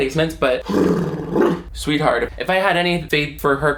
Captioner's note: blows raspberry